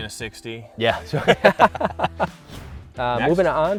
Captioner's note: laughter